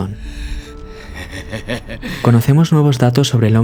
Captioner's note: risa